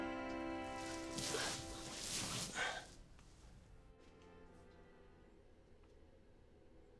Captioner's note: sighs